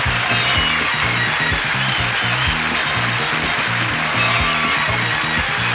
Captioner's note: audience cheers; upbeat music